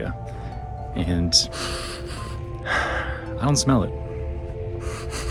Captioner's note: sniffs